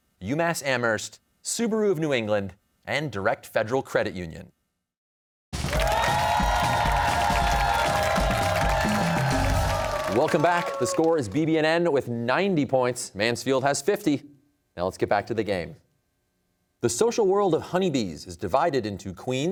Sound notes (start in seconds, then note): 5.5 cheers and applause